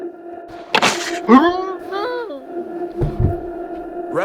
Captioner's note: muffled screams